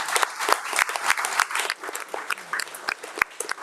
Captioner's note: attendees clapping